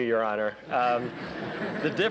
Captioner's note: laughter